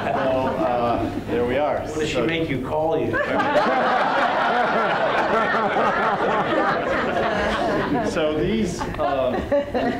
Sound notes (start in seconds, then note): 0.0 laughter; 3.1 laughter